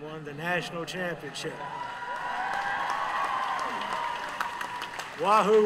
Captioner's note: applause